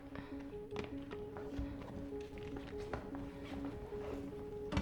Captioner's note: footsteps echo